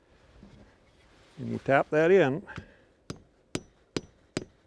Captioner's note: wood thudding